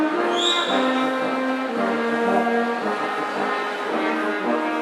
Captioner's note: attendee whistles